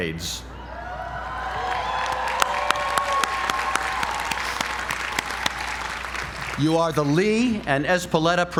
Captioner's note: applause